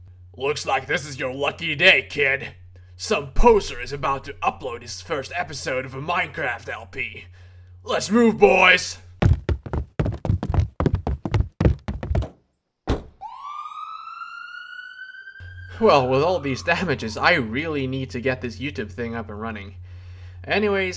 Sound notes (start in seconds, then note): 9.1 multiple heavy footsteps; 11.5 fading police sirens